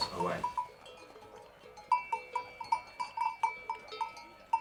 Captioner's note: cow bells tinkling